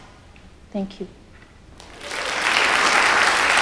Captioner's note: applause